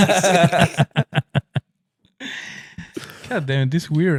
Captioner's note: laughing